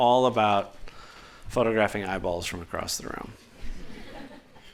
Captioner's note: laughter